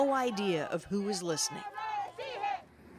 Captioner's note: chanting